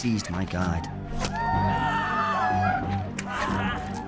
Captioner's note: groaning